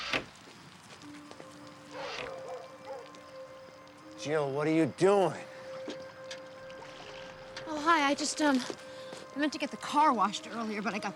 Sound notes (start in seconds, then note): 1.9 dog barking